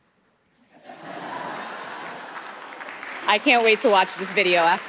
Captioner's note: audience laughing; audience applauding